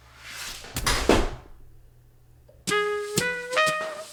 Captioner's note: laptop crashes